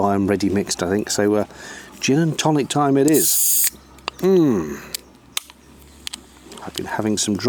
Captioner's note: sound of can opening and fizz